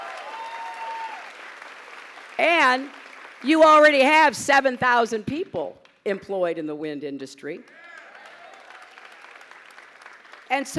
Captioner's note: applause; applause